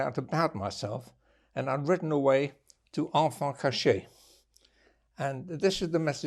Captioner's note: french